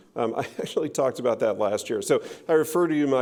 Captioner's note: laughing